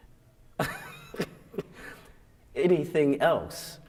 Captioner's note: laughs